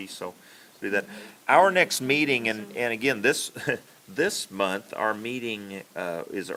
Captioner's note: laughs